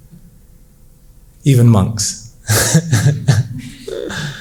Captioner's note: laughs